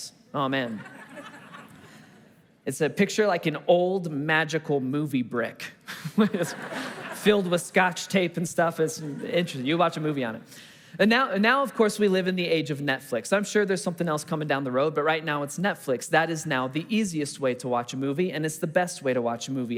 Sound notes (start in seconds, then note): 0.7 congregation laughing; 6.1 congregation laughing